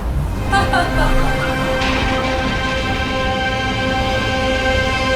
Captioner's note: tires screeching; Zilia laughing